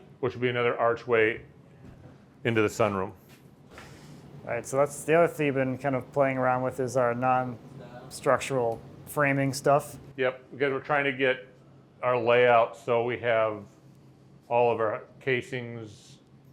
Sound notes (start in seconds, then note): none